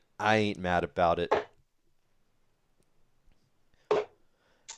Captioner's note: dart ticks